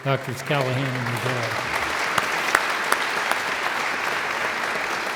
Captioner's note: audience applauds